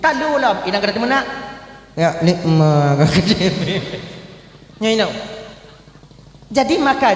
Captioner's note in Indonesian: tertawa